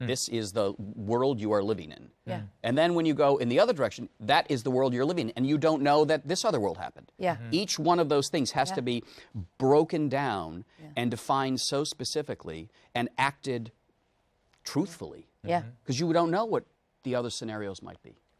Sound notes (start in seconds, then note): none